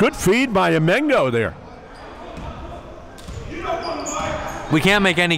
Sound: yelling

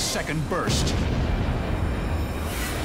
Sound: booming

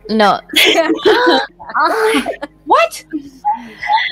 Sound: laughing

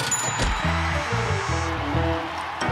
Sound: crowd cheers

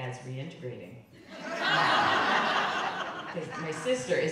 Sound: crowd laughing

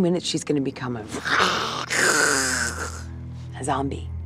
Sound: growls

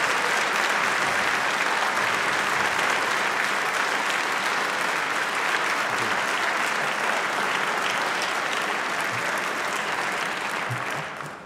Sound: applause

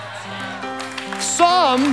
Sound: audience cheering quietly

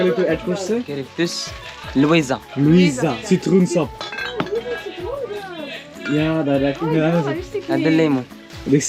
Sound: foreign language

